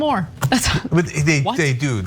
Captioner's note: laugh